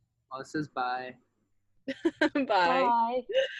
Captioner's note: laughs